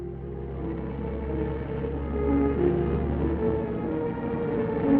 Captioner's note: trucking driving